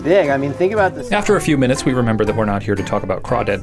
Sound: voiceover

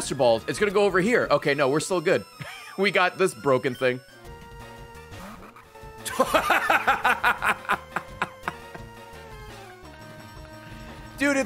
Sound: laughs

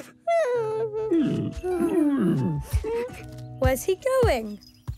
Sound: grumbling

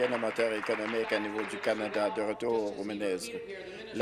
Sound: applause

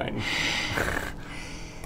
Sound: arrogant hiss

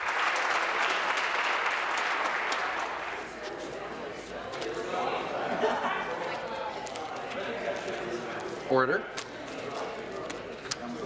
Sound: applause

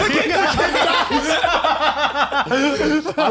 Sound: laughs

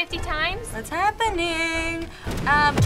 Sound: singsong

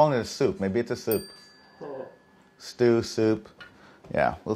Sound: dinging

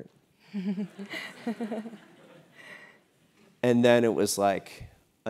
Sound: laugh

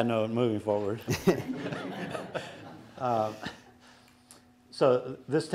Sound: everyone chuckling

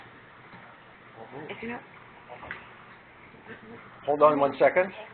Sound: staff chattering quietly

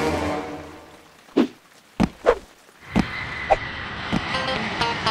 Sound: whoosh

